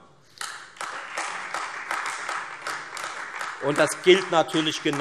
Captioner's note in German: Beifall Freie Demokraten und vereinzelt AfD